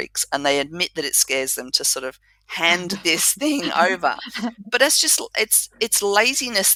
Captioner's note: laugh